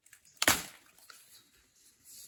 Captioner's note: leaf snaps